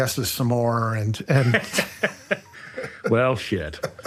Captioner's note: both laughing